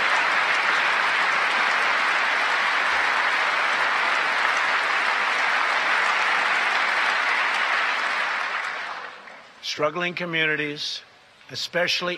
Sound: applause

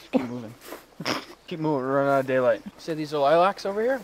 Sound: snorts

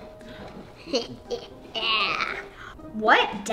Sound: chuckles

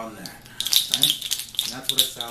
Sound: deer toes clacking

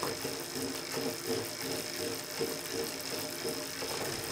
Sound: bike pedaling

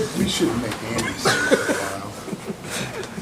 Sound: laughter

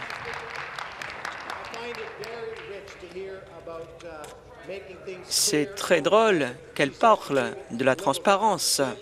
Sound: applause

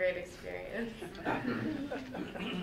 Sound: laughs

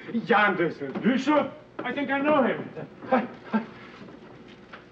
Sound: chuckles

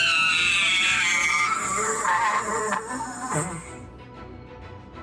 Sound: shrieking

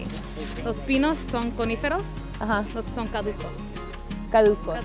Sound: speaking Spanish

